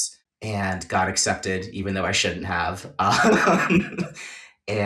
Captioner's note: laughs